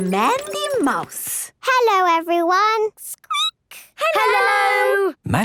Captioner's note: squeaking